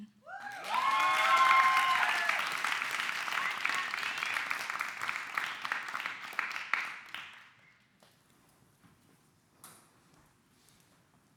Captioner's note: clapping